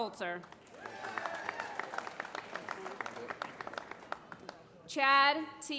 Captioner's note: applause